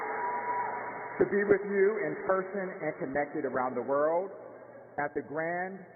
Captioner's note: cheers and applause